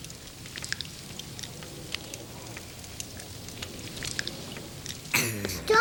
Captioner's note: crackling firewood